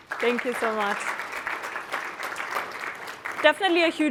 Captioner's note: applause